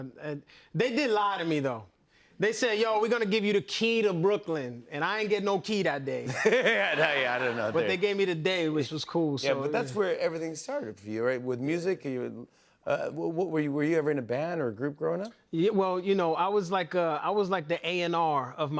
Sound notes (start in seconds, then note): 6.2 laughter; 6.3 laughs